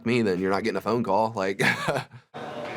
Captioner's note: laughs